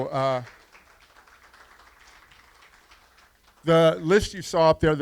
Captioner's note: applause